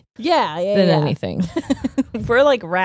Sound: laughing

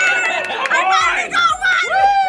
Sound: group claps

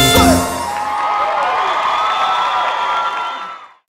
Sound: aplausos

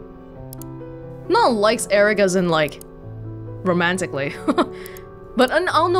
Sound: chuckles

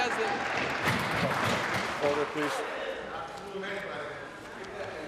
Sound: applause

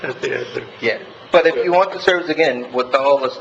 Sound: laughing

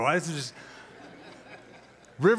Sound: laughter

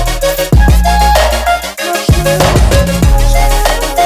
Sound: vocalizes

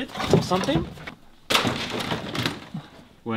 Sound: clatters

